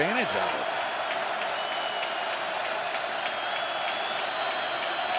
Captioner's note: crowd cheering